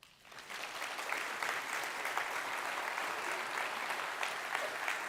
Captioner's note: audience clapping